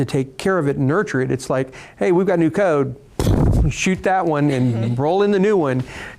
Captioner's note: imitating gun firing